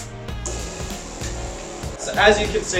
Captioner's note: unit whirring